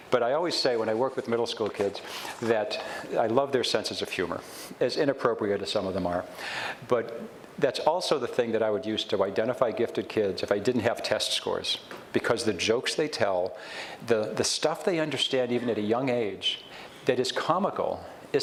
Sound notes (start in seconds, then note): none